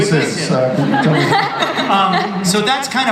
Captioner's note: audience and panelists laugh